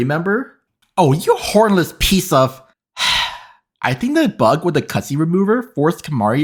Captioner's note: sigh